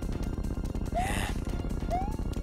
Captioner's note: sigh